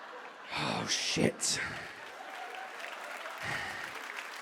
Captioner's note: audience claps